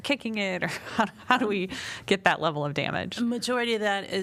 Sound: laughter

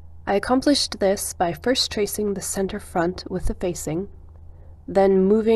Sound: none

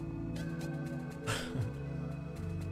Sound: chuckle

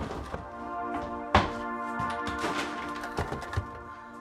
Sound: things being moved; kitchen drawer shut forcefully

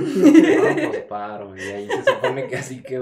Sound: laughter

